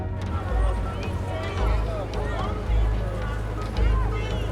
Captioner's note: busy city noise